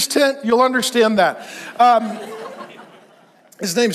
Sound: congregation laughs

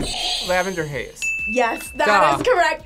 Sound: bell rings; buzzer rings

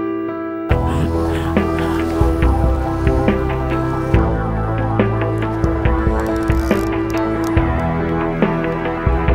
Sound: splashing

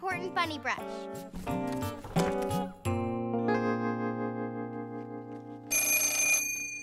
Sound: phone ringing

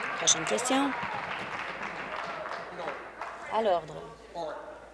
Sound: applause

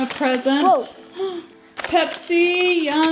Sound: gasping

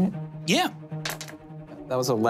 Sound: dice clatters

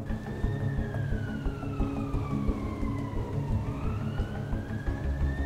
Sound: police sirens wail

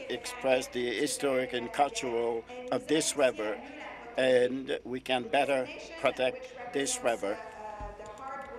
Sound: speaking in French

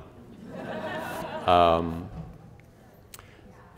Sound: laughter

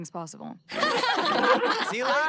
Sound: laughing

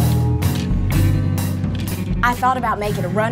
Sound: clothes rustling

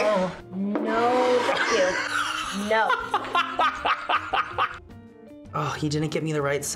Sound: laughs

